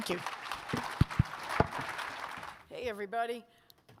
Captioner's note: audience clapping